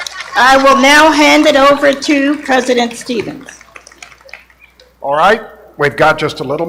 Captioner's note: applause